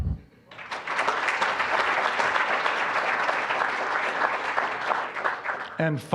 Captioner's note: applause